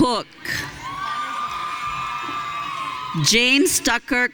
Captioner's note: audience cheering